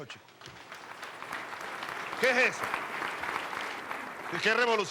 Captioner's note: applause